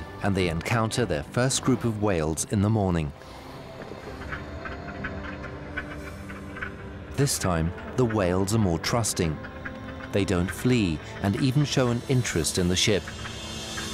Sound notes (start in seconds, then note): 3.9 whales clicking